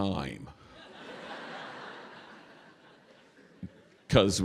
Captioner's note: laughter